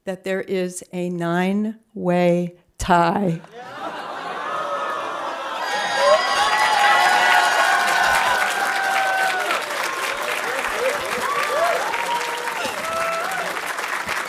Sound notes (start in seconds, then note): 4.3 audience cheering and applauding